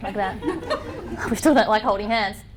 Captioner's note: laughter